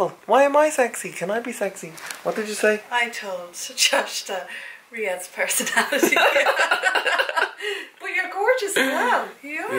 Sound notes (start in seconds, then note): 5.9 laughs